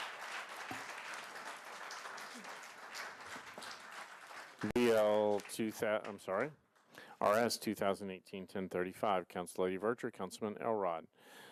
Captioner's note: applause